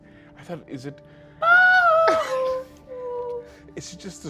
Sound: screeching

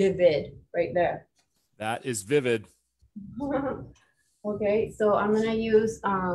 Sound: chuckles

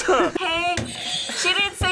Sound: both laugh; buzzer rings

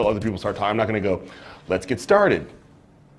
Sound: soft voice; pause

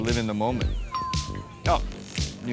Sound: notification chime

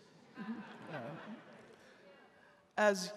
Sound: audience laughing

